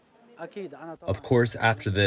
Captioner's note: through translator